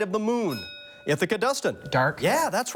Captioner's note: bell dings